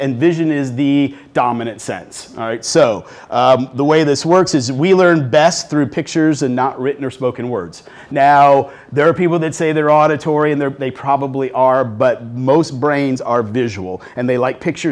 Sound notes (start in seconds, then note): none